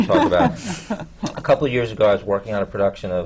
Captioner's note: laughter